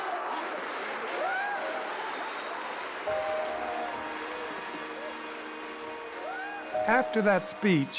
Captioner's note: applause and cheering